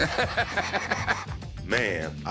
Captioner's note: laughs